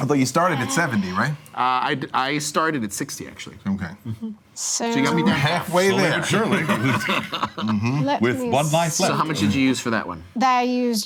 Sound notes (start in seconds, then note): 6.8 laughing